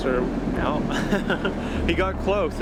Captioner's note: laughing